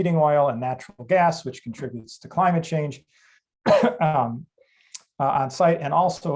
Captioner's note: coughs